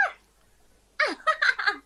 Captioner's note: laughs